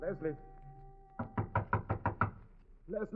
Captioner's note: knocking